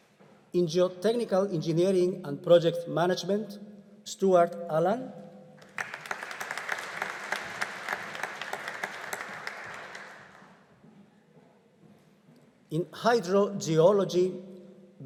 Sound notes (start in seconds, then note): 5.6 audience applauding